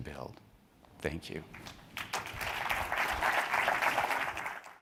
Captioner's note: audience applauding